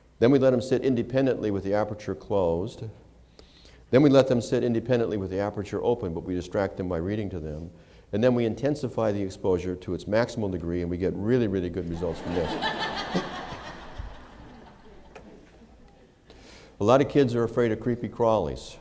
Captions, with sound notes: Then we let them sit independently with the aperture closed. Then we let them sit independently with the aperture open but we distract them by reading to them. And then we intensify the exposure to its maximum degree and we get really, really good results from this [laughter]. A lot of kids are afraid of creepy crawlies.